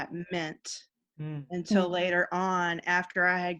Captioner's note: murmuring in agreement